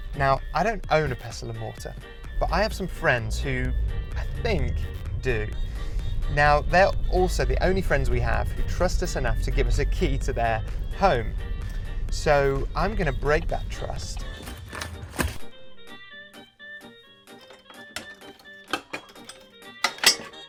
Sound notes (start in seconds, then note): 17.3 clattering